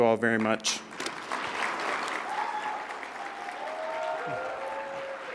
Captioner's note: audience clapping